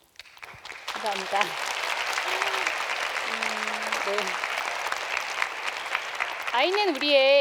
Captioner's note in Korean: 박수